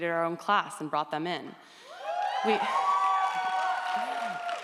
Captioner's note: audience cheers